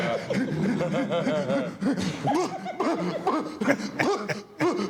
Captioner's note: Bubba Ray stuttering